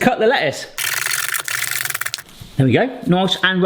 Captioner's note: knife hitting a cutting board